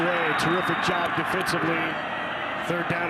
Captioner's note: referee blows whistle